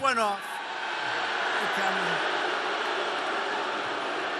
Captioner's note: crowd roars